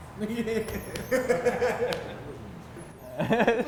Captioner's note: laughs